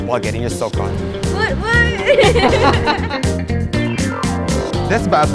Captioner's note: laughing